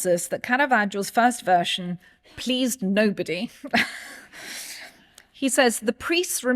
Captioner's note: chuckles